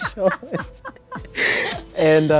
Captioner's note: laughter